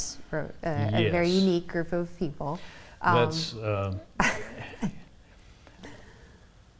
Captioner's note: laughs